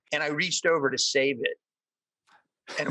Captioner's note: all laugh